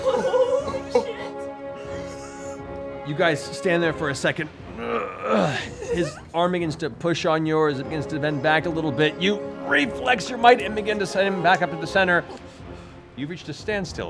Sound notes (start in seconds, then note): 0.0 laughs; 4.7 groans